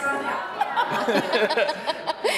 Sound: hosts laughing

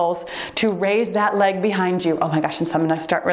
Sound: timer beeps

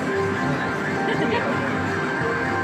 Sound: laughter

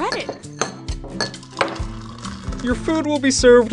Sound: glass knocking and pouring

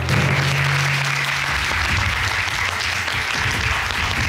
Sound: applauding

